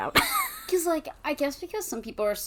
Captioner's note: wheeze laughs